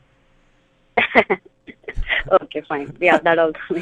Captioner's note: laughs